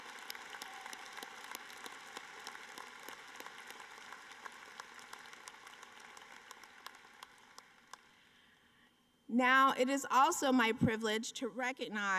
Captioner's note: applause